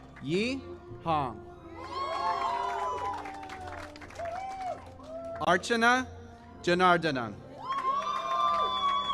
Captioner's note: cheering and alaus